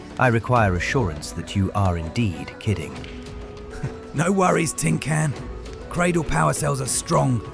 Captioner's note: laughs